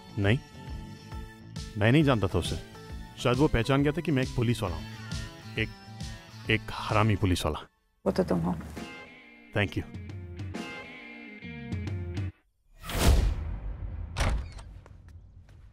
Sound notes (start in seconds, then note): 14.1 Door opens